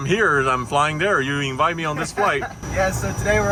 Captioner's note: laughing